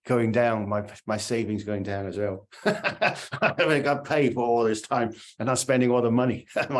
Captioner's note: laughter